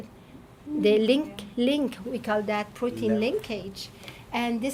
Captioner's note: none